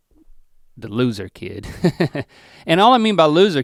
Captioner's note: chuckles